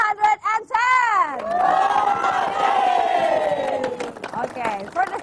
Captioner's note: applause, cheering